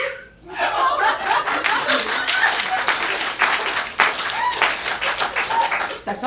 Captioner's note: audience applauds